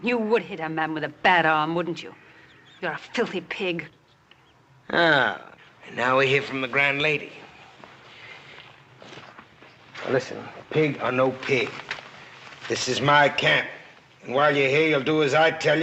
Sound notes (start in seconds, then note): none